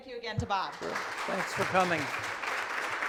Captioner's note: attendees applaud